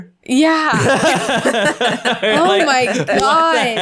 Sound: all laughing

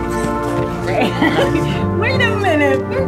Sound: laughs

